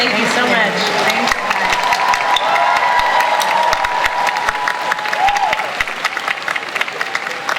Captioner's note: audience cheering and applause